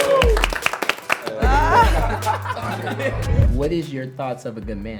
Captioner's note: upbeat music; laughing